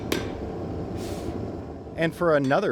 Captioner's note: hammer strikes; blows